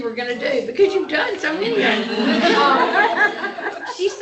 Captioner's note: laughter